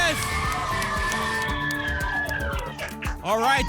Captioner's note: applause and cheering